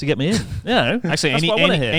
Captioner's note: chuckles